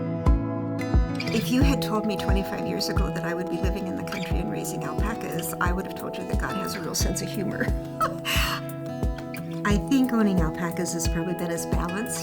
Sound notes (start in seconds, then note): 8.0 chuckling